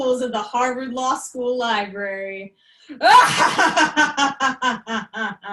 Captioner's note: evil Laughter